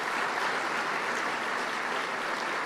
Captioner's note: applause